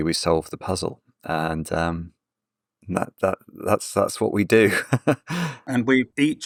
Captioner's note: laughs